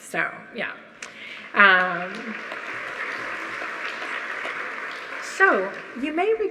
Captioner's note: audience applauding